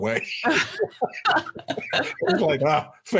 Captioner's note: both laughing